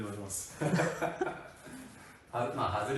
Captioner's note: laughs